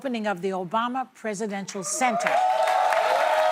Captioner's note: cheers and applause